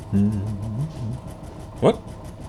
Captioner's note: humming